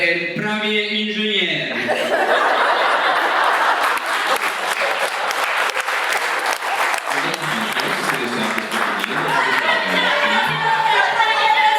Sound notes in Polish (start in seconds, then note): 3.5 Aplauz